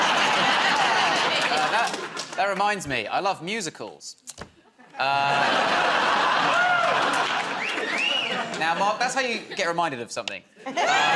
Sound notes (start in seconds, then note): 0.0 laughter; 4.7 laughter; 7.6 wolf whistles